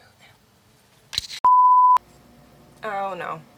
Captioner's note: whispers; beep